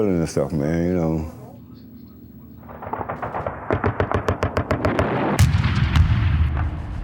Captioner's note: gunfire; explosions